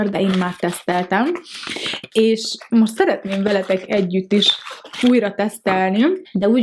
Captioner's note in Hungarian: horkantás